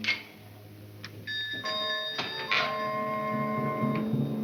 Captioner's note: bell rings; suspenseful music